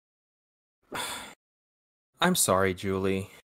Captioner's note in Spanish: suspiro